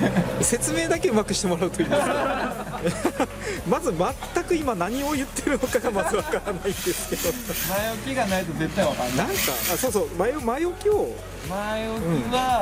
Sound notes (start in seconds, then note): 1.7 laughs; 7.4 laughs